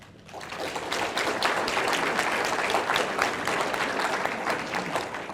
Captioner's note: audience applauding